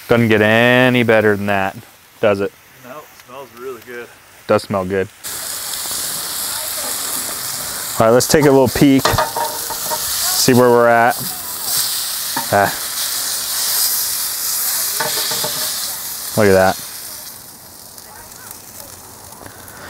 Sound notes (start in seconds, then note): 5.7 butter sizzling; 13.7 butter sizzling